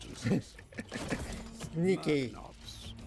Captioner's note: laughing